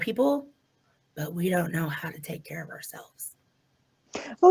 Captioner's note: sarcastically